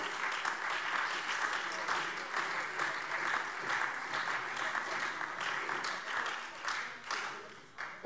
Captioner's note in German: Beifall SPD, Freie Demokraten und DIE LINKE